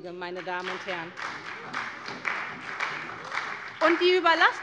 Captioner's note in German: Beifall bei der SPD